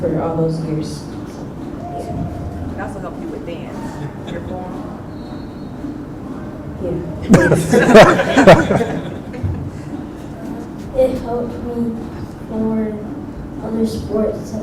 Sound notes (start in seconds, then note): 7.2 laughter